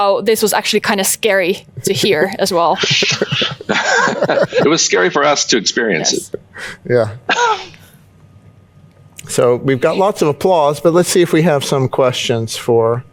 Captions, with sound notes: this was actually kind of scary to hear as well. [chuckles] It was scary for us to experience it. Yeah. So, we've got lots of applause, - but let's see if we have some questions.